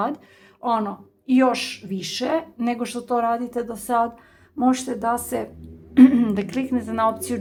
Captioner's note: cough